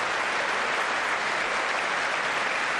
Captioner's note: applause